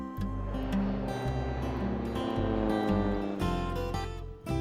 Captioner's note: flute plays; plane buzzes